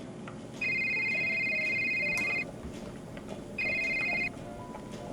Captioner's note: phone rings